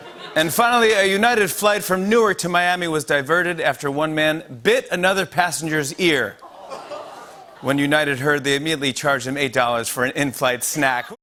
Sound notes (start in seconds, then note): 0.0 laughter; 6.4 audience oohs